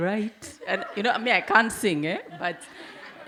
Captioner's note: audience laugh